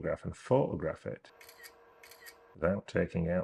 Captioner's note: camera snapping